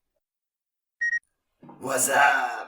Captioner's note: beep